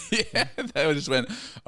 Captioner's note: laughing